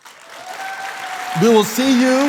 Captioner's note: crowd applauding